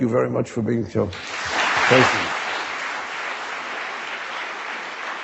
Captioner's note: audience clapping